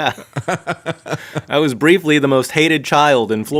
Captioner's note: laughing